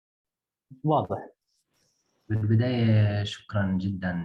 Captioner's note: speaking arabic